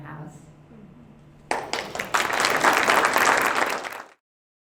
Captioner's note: applause